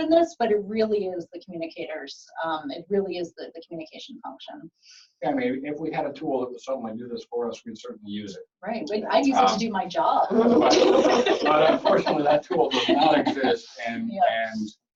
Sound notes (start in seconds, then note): 10.3 laughter